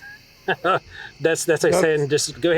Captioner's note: laughs